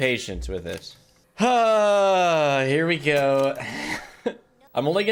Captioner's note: sighs